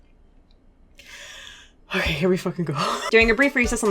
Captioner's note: deep breath